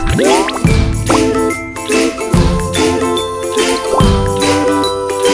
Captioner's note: laughs